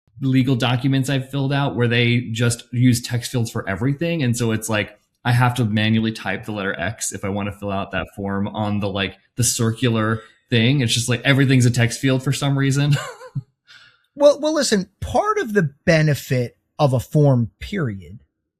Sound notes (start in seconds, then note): 12.8 laughs